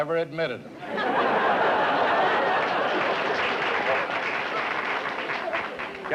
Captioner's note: laughter, applause